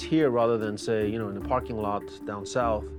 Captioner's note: none